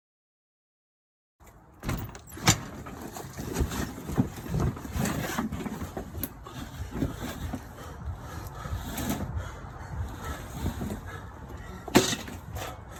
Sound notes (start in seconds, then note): 1.8 door creaking; 4.8 heavy breathing